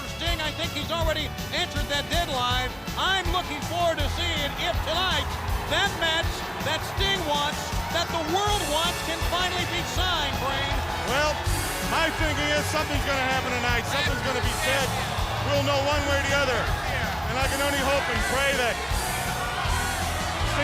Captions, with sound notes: I think he's already answered that deadline. I'm looking forward to seeing if tonight that match that Sting wants, (crowd cheering) that the world wants can finally be signed, Brain. Well, my thing is, something's gonna happen tonight. Something's gonna be good. We'll know one way or the other and I can only hope and pray that